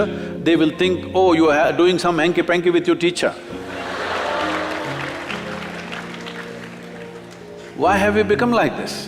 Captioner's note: laughter/Applause